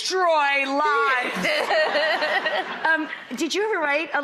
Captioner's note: Lana and audience laugh